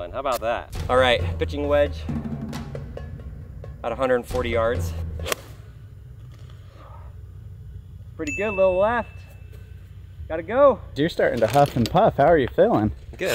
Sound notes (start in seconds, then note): 5.2 golf club pings